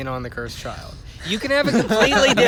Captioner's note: laughter